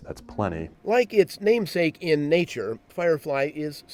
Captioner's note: voiceover